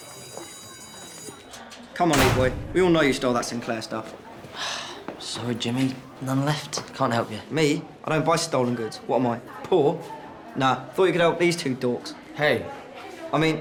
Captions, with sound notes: [school bell rings] C'mon, Leek Boy. We know you stole that Sinclair stuff. [sighs] Sorry Jimi, none left. Can't help you. I don't buy stolen goods. What am I, poor? -I thought you could help these dorks. -Hey!